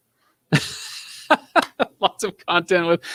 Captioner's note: laughing